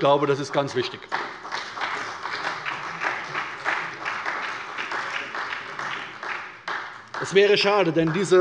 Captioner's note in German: Beifall bei der SPD